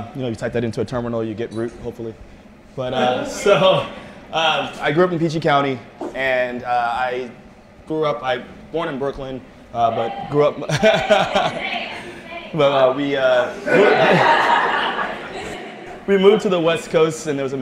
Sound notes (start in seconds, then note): 11.0 cheering